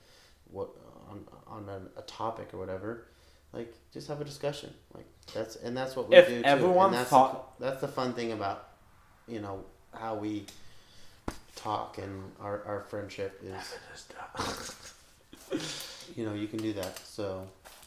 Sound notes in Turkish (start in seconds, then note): 12.2 fısıldar